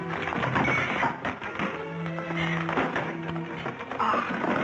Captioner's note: clattering